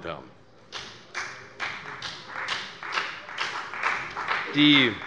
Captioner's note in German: Beifall bei der CDU und dem BÜNDNIS 90/DIE GRÜNEN